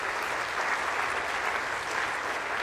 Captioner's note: applause